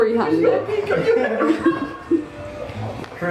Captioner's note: laughing